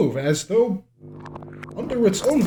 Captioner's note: magic crackling